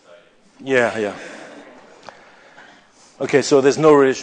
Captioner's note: laughter